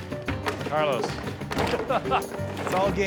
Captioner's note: laughs